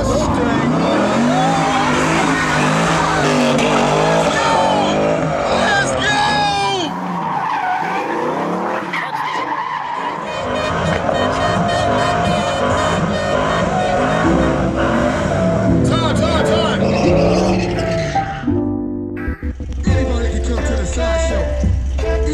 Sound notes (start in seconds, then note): 0.0 engine roaring; 9.4 tires squealing; 10.8 horn honking